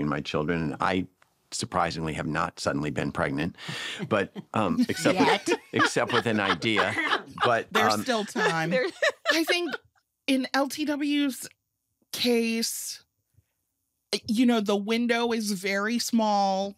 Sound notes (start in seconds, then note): 3.7 laughter